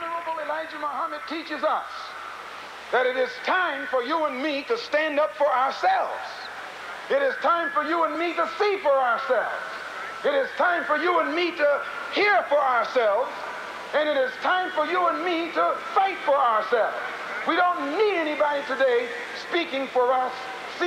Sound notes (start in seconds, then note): none